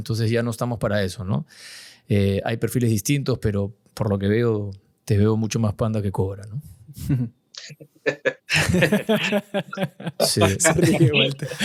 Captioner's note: laughs